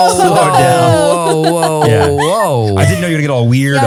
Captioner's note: laughing